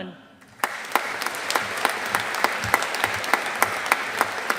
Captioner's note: audience applauding